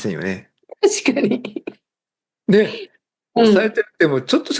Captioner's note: laughs